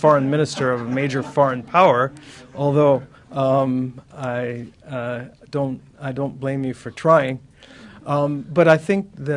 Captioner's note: laughter